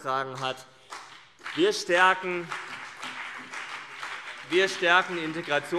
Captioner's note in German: Beifall CDU und BÜNDNIS 90/DIE GRÜNEN